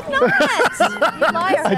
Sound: laughing

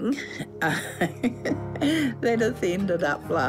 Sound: laughs

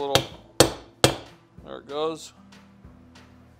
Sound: hammer tapping

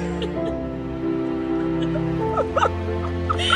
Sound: laughing

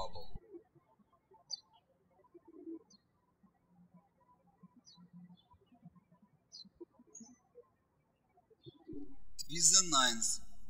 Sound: birds chirping

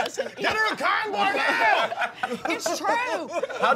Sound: yelling

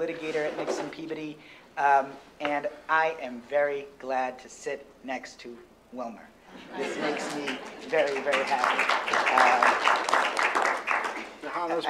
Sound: applause

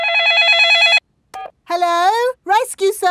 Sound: dialing; cell phone ringing

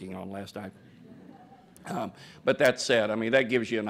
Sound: laughter

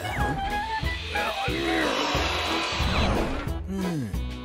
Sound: circular saw whirs; accommodation fairy grunts; accommodation fairy sighs and grunts, pleased

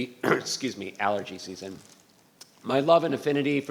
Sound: clears throat

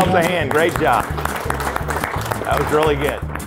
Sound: clapping

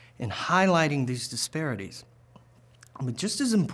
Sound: none

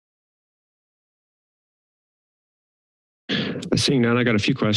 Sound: silence

